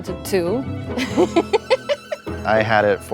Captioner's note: laughing